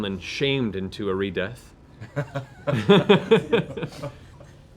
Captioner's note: laughter